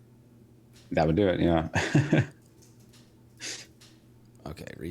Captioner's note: laughing